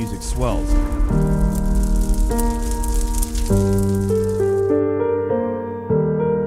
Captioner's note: fire crackling; piano music